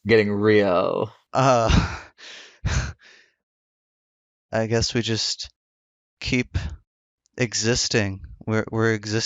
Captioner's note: laughs